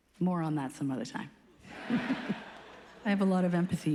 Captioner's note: laughs